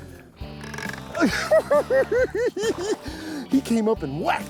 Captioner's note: laughs